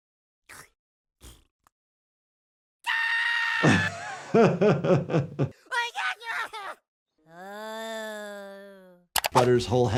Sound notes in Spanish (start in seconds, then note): 0.3 sonido cómico del viento; 3.2 Butters gritando; 3.6 El médico de urgencias se ríe; 6.1 Butters gritando; 7.2 Butters gimiendo